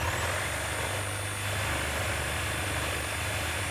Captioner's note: saw humming